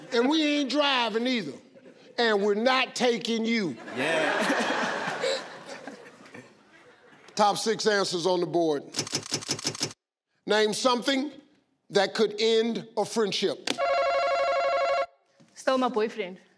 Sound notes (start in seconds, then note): 3.6 audience laughing; 8.8 electronic clicking; 13.8 buzzer ringing